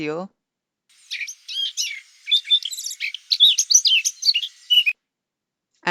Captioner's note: birds chirping